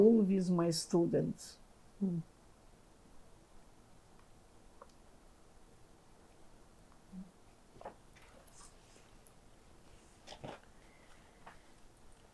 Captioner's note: pauses 11 seconds